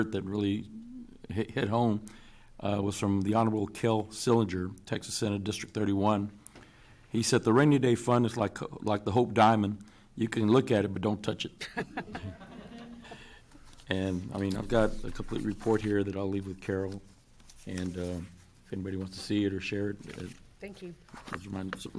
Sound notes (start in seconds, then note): 11.6 loud laughter